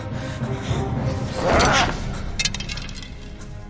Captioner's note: voldemort grunts